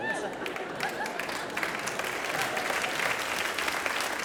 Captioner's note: audience laughs